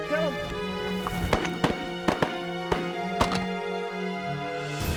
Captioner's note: gun shots